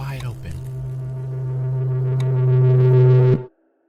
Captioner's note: scary low hum; sound stops